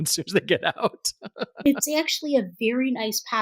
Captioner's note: chuckle